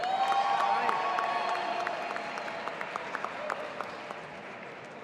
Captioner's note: audience applauding and cheering